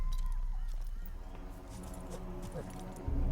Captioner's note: coyote howls